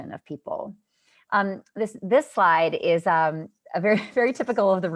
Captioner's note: laughter